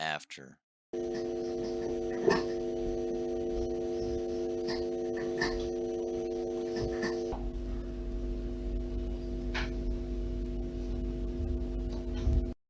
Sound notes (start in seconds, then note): 0.9 distorted humming sound + coffee machine; 7.3 steady Humming sound